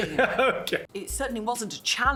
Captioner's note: laughs